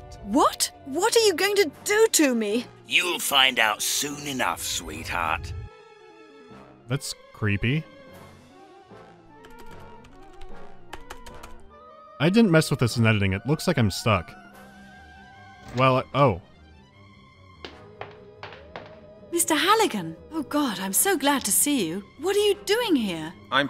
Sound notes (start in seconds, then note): 9.4 tapping on the keyboard